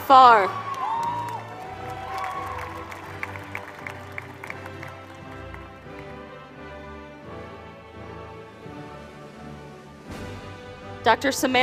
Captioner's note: applause